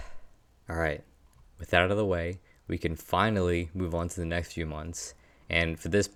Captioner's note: sighs